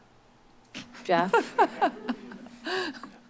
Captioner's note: laughs